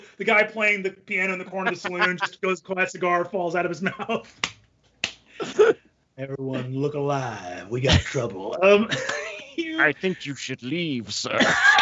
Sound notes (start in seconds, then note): 4.5 laughs